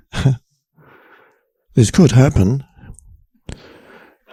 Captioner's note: chuckles